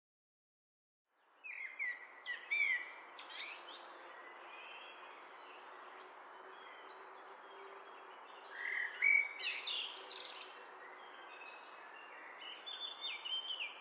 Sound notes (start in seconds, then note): 1.2 bird song